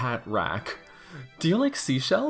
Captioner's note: deep breath